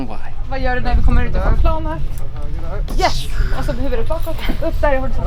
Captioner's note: speaking Swedish